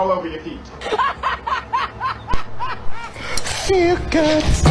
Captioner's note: loud laugh